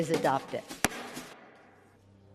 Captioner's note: gavel bangs